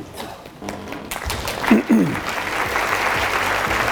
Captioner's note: audience applauds